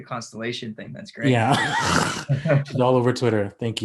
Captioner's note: laughs